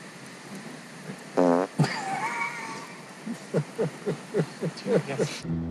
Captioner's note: both laughing; Rick farts; mellow music